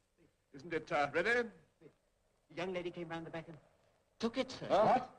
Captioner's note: none